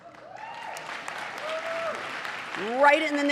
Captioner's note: applause